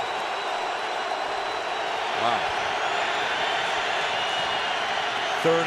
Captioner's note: crowd cheering